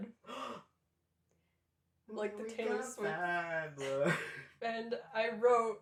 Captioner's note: gasp